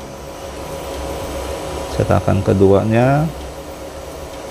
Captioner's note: printer machine noise